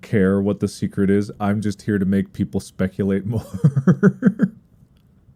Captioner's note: laughs